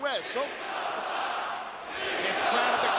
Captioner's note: crowd cheering